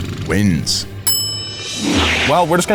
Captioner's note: bell rings